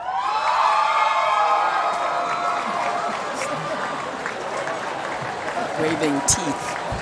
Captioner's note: applause